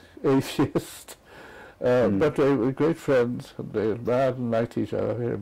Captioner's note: laugh